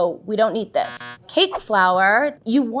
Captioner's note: buzzer sounds